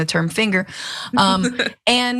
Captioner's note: laugh